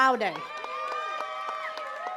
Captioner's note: attendees cheering and clapping